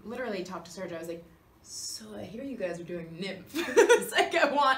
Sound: Kathryn laughs

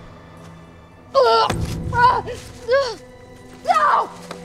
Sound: groaning

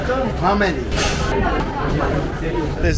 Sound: people speaking indistinct; people chattering; person speaking Italian

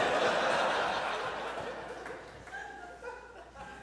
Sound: audience laughs

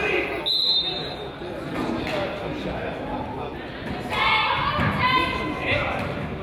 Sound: whistle blows; whistle drowns out coach

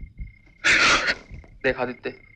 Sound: sobbing

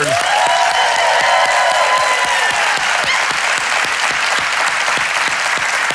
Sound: congregation cheers and claps

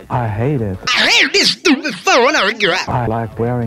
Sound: heavily distorted

